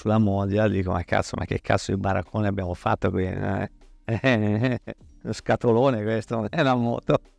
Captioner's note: laughs